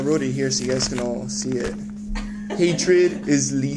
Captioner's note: laughing